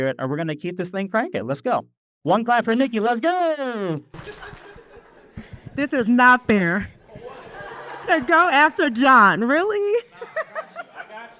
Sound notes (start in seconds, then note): 4.1 audience claps; 7.0 audience laughs